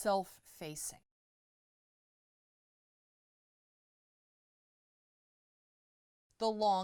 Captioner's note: no Sound Present